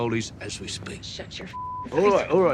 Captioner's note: beep